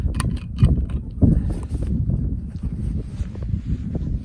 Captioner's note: wind blows